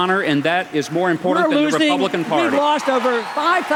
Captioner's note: cheers